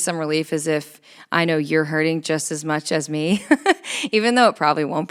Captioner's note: laughs